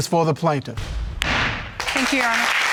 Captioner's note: gavel banging